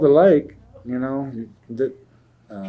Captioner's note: laughs